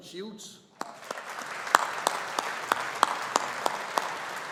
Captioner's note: audience applauding